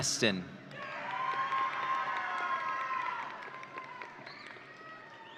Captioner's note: audience cheering